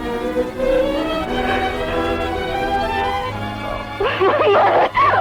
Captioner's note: sighs